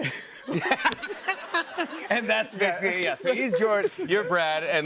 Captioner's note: laughter